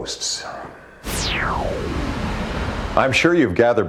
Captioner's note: whooshing